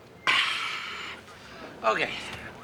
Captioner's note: sighs